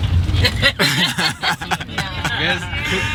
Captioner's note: people laughing